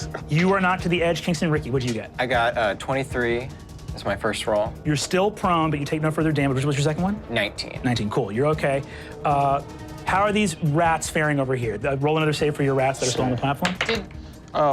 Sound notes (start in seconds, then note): none